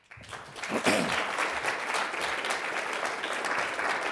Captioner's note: audience applauding